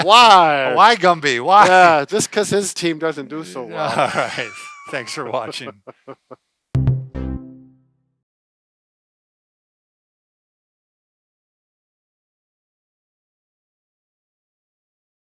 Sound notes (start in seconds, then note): 3.3 laughs